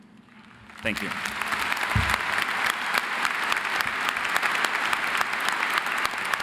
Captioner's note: audience applauding